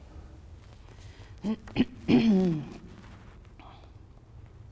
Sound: clears throat

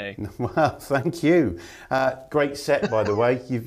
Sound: chuckle

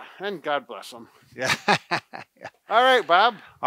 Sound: laughs

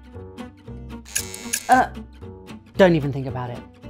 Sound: scissors snips

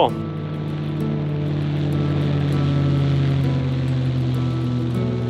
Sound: plane buzzing overhead

